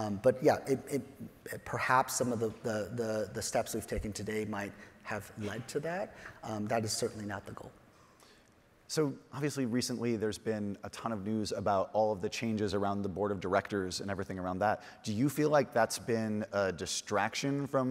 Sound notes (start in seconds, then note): none